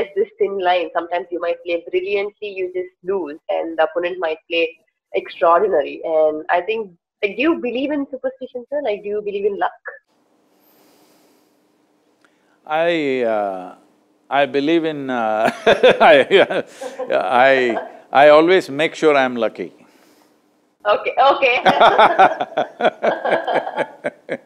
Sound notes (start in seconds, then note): 15.4 laughs; 21.4 both laugh